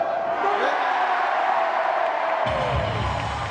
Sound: cheering

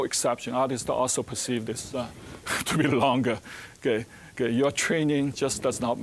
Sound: laughing

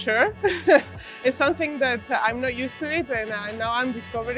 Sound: laughs

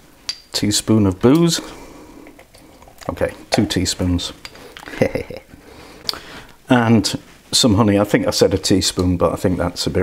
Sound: laughs

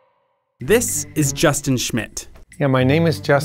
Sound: voiceover

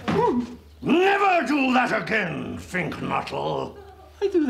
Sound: whimpers

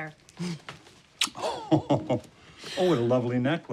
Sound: chuckles softly, smooches; chuckles

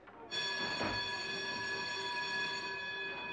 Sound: bell ringing

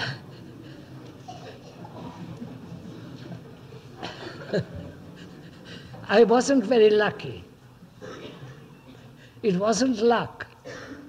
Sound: laughs

